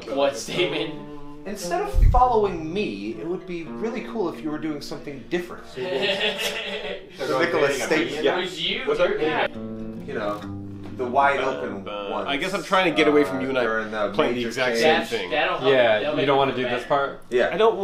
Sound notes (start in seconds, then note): 5.8 everyone laughs